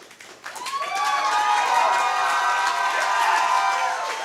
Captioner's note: audience cheers and applauds